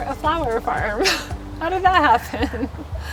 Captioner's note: laughs loudly